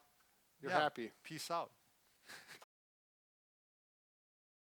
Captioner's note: chuckles